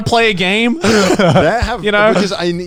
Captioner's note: laughing